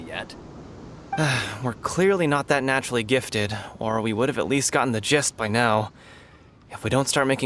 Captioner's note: sigh